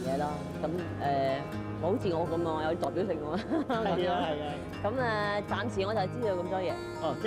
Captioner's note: laughs